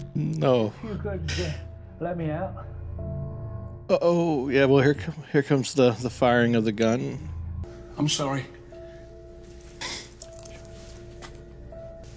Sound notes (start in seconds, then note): 1.0 pained inhale; 9.8 emotional sniff